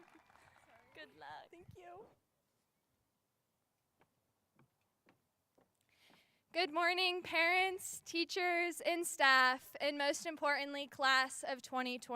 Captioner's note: cheers and applause